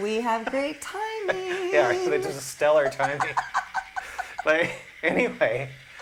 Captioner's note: laughter